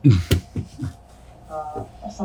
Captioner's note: laughs